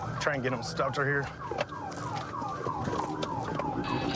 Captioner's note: sirens blaring